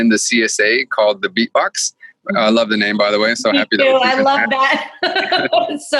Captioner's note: laughing